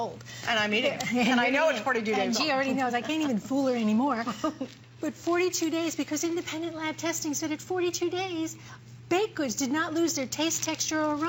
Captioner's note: laughter